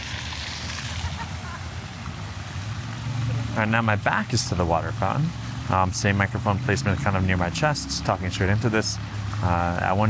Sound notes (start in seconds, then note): 0.8 background laughing